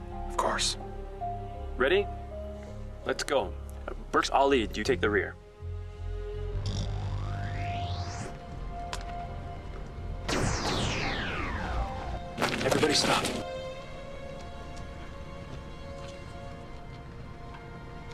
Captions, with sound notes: - Of course. - Ready, let's go. Burks, I'll lead, you take the rear. (electronic whirring) Everybody, stop. (tense instrumental music)